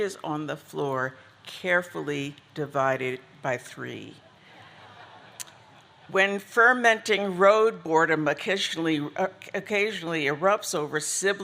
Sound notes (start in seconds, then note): 4.3 audience laughing